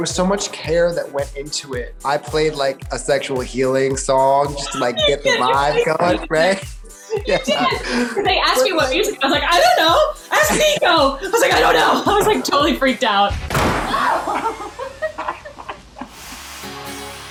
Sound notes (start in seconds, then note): 13.4 boom; 13.8 scream; 13.9 laughing